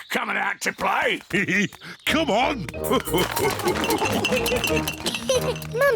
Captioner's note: laughs; all laugh; giggles